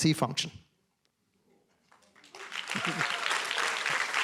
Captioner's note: applause